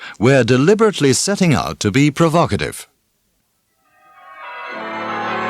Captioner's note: wedding bells